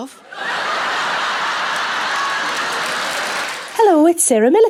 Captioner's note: audience laughs